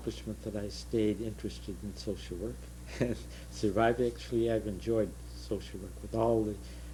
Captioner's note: laughter